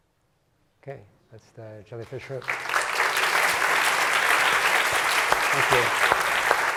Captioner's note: applause